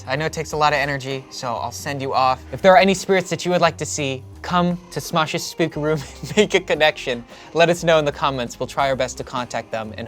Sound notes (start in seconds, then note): 5.7 laughs